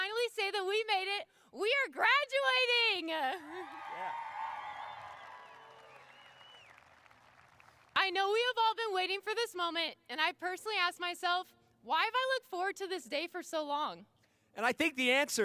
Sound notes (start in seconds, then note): 7.7 cheers and applause